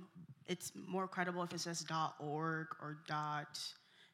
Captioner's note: none